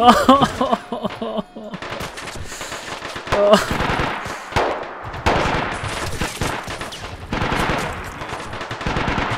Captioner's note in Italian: suoni di soldati spagnoli feriti; Suoni di mitragliatrice